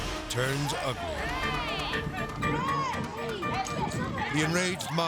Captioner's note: people shouting